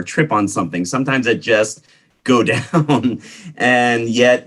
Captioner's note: laughs